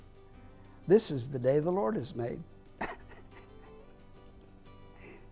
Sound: laughing

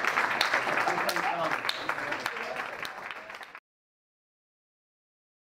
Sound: audience and panelists applaud; faintly speaking

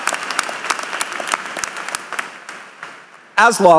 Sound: cheers and applause

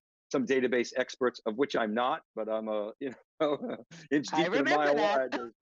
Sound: laughs

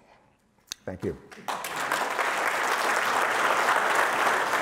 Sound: applause

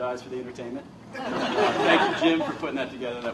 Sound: laughter

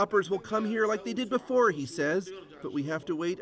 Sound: speaking foreign language

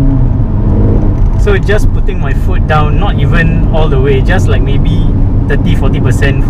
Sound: sweet exhaust note

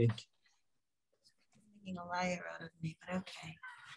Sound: speaking away from mic

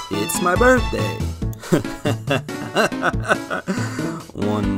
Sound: laughing

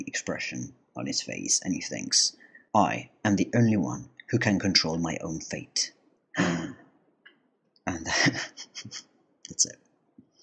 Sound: gasp

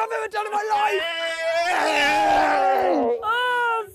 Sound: cheers

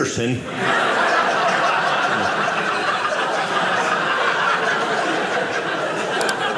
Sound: audience laughing

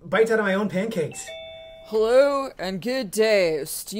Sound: doorbell rings

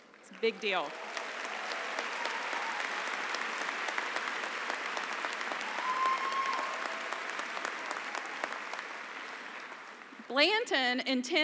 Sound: applause and cheering

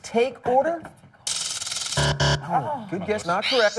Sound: buzzer

